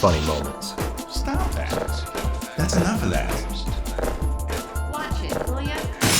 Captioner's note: bonk